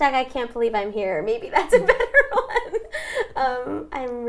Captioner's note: laughs